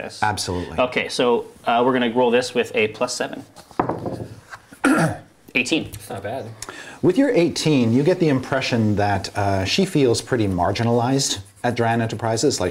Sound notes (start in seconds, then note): 3.7 die rolls